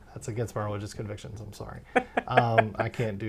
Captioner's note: laughs